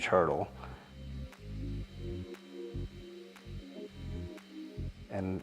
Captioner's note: machine whirring softly